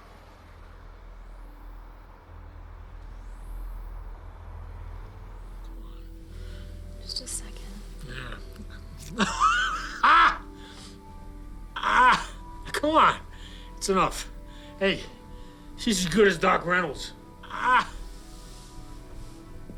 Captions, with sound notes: - JUST A SECOND. - YEAH. [laughs loudly] AH! COME ON. THAT'S ENOUGH. HEY, SHE'S AS GOOD AS DOC REYNOLDS. AH!